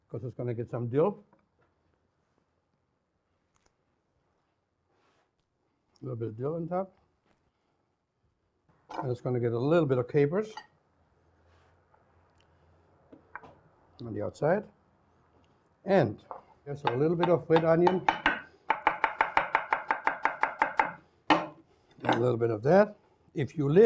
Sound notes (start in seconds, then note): 18.7 rapid chopping